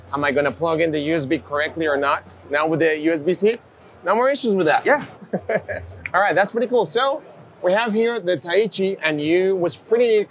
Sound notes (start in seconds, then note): 4.9 laughs